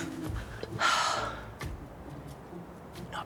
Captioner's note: sighs